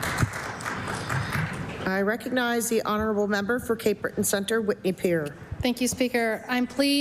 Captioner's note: applause